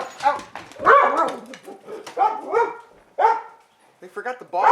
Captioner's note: dogs barking